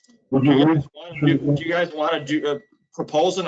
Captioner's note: mumbling